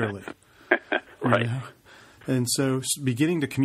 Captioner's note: laughs